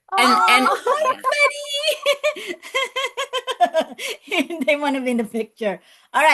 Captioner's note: laughs